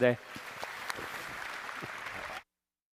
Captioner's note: applause